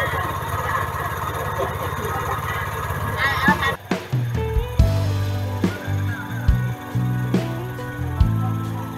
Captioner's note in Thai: เสียงหัวเราะ